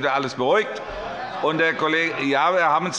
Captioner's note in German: Zurufe von der SPD